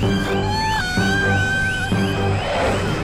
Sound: screams

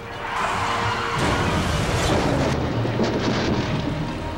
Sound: tires skidding

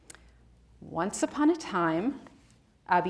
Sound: speaks in Spanish

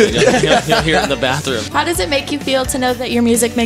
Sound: laughter

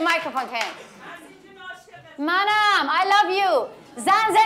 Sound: speaks in foreign language; speaks in foreign language

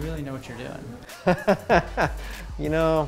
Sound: laughs

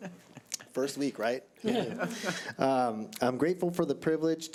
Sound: all chuckling

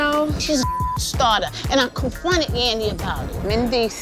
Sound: beep

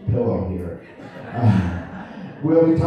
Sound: laughter

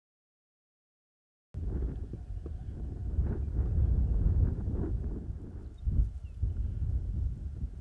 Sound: wind blowing

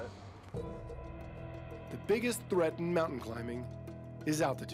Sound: voiceover

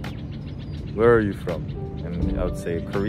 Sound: Egyptian accent

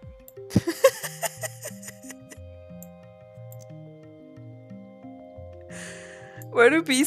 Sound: laughs

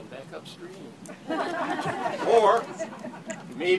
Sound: laughter

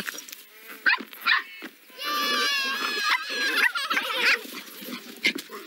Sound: puppies Barking

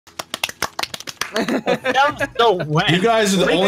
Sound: clap clap clap

